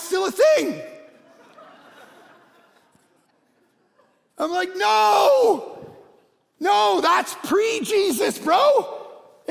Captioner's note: congregation laughing